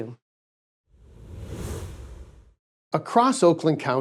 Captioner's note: air whooshing